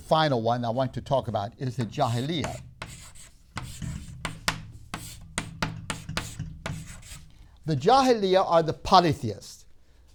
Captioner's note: chalk sounds